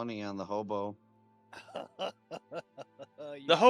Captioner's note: laughs